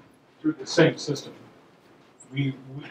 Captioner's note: voiceover